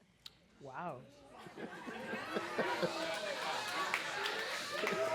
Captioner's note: audience chattering